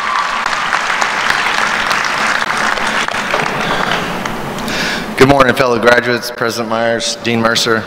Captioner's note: applause